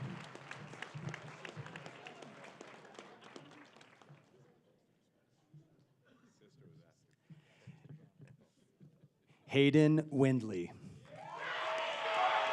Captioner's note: applause